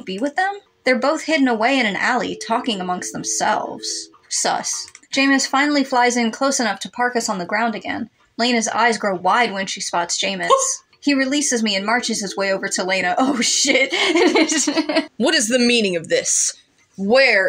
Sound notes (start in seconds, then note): 10.4 fearful Yelp; 13.3 laugh